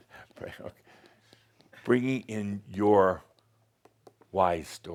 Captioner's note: chuckling